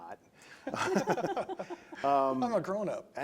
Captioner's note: laughing